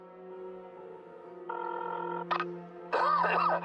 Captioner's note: phone rings and clicks; Pappy coughs